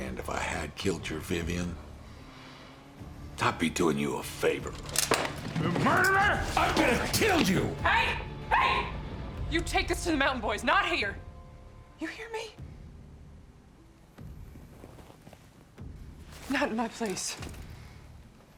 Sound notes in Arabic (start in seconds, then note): 4.3 كلا الصراخين; 13.0 موسيقى متوترة; 17.9 موسيقى متوترة